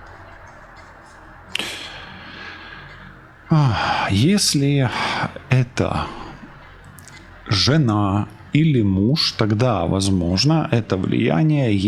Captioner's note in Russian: вздыхает